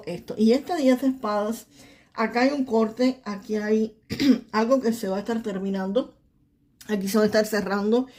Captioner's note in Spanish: carraspeo